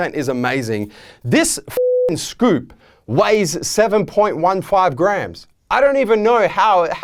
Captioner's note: beeping